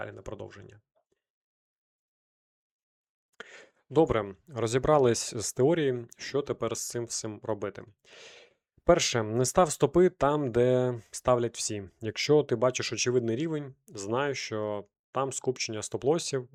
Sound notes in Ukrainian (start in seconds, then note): 8.1 сопіння